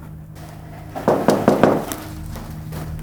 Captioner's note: knocking